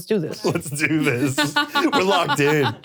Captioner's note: laughing